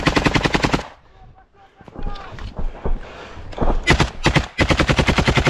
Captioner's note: russians yelling: "Go, go!"